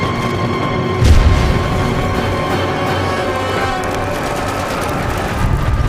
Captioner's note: explosion booming